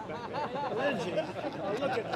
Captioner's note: laughter